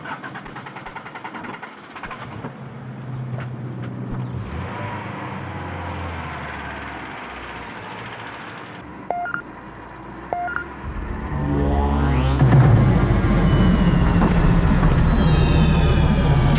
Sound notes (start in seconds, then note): 0.7 car engine thrums; 10.3 beeping; 12.7 mechanical noise thrumming